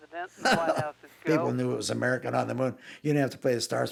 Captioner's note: laughing